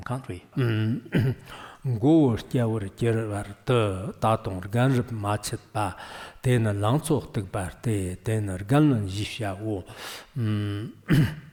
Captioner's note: giving oral transmission in Tibetan